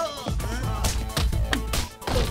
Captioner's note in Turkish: kavga- dövüş sesleri̇